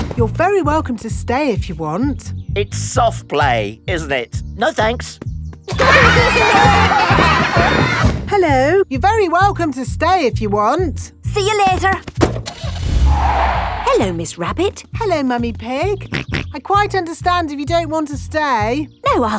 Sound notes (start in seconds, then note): 5.7 laughter; 12.2 car starting; 12.4 tires screeching; 16.3 snorts